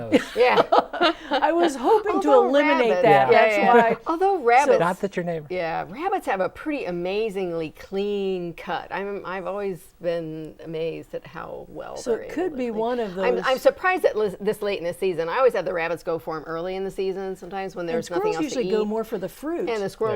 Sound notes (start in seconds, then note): 2.9 laughing